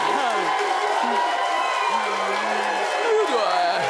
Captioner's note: audience cheering